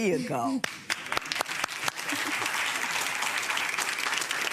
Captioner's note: audience applauds